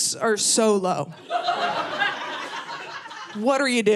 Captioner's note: audience laughing